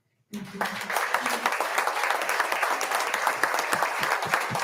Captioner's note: audience applauding